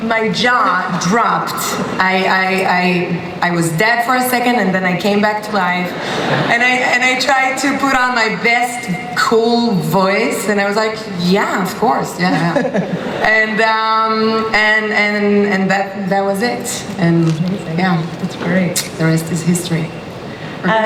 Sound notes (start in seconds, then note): 5.9 laughter; 12.2 laughter